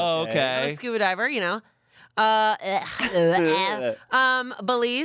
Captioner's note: grunts